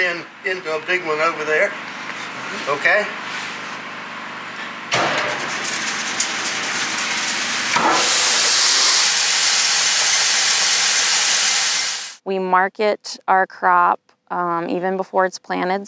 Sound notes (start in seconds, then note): 4.5 machine starting noise; 6.2 machine noise; 9.0 sound of corn kernels falling